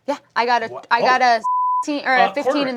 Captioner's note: beeping